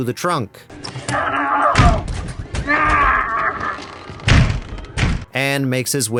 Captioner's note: screaming